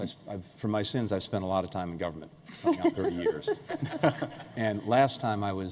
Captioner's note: laughter